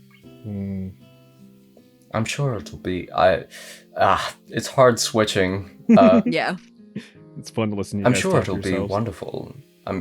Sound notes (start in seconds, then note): 5.9 giggles